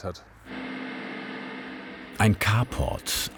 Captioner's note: loud whirring